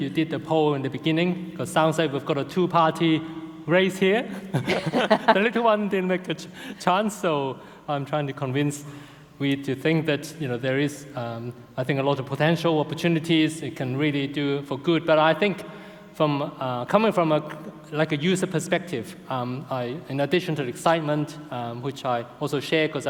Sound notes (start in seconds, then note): 4.4 laughing